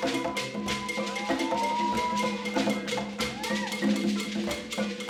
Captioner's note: people cheering